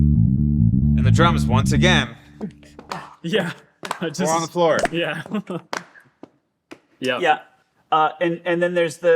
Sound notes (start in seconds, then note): 5.0 chuckling